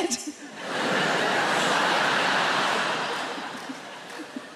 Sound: audience laughs

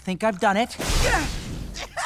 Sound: grunting; laughing

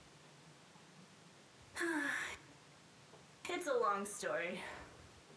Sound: sigh

